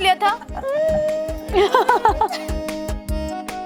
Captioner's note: both laugh